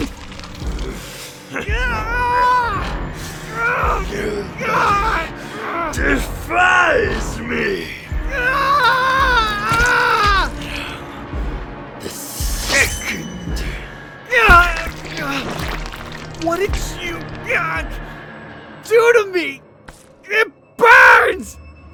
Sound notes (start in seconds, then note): 2.4 laughs; 8.2 screaming